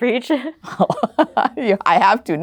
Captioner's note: laughing